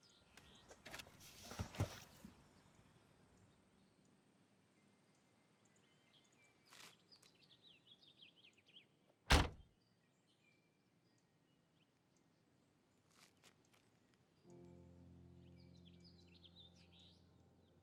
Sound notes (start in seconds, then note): 9.5 boot banging; 14.4 gentle music